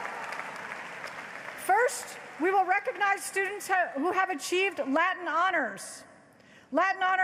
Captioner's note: applause